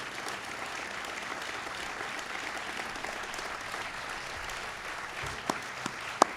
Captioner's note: applause